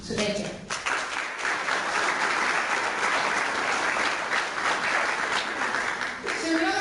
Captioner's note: clapping